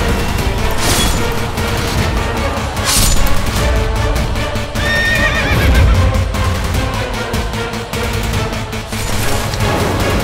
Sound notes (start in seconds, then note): 0.1 swords cutting through; 4.8 horse neighs